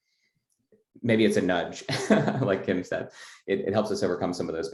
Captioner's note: laugh